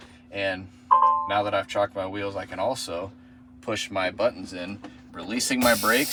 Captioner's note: beeping